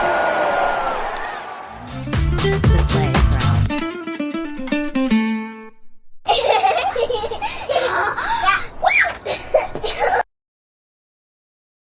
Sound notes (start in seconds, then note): 6.2 kids giggling